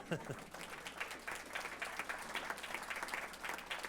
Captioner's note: applause